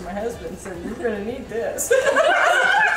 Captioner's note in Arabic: يضحك